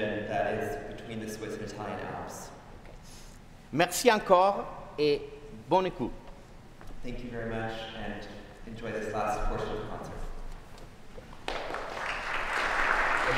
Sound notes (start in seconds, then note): 4.4 speaking french; 11.4 applause